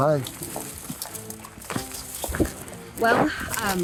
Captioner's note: footsteps